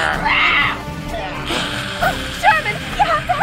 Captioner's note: growling